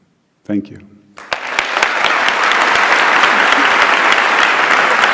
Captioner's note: Aplausos